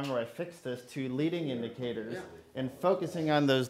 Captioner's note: murmuring